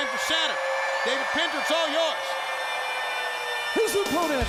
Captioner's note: air raid sirens blaring